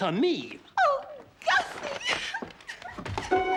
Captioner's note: cries